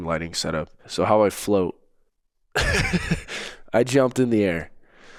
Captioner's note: laughs